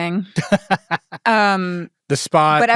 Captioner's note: laughing